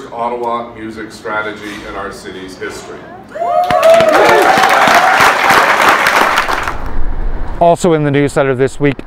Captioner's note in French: applaudissements